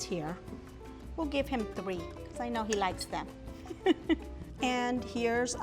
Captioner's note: laughs